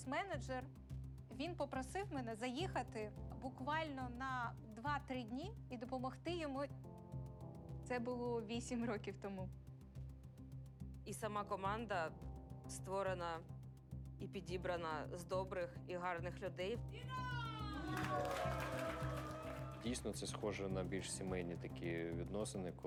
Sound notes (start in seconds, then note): 17.0 team cheering